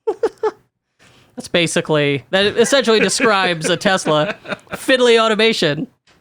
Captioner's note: laughs